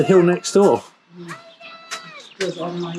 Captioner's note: children shouting indistinctly